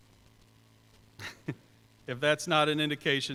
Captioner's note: chuckles